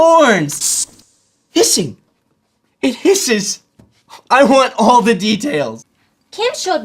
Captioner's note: hissing